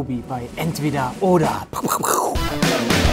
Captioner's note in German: Krachlaute; Fetzige Musik